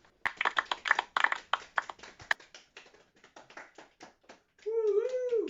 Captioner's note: relieved applause